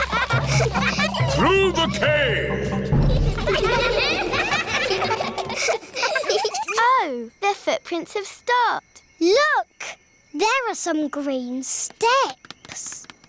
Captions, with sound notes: (ECHOING) Through the cave. Oh. The footprints have stopped. Look! There are some green steps.